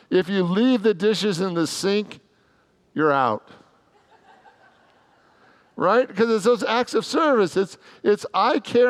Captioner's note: congregants laugh